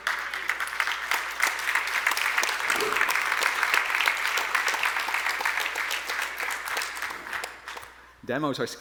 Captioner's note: applause